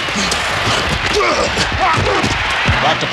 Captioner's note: grunting